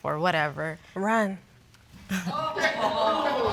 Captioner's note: all laughing